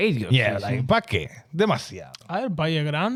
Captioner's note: speaking In Foreign Language